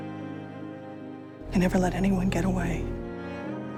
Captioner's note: voiceover